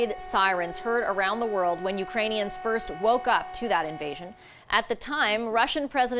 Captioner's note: sirens